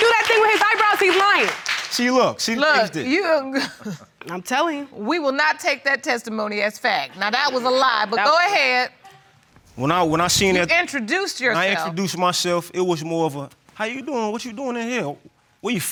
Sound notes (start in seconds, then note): 3.6 laughs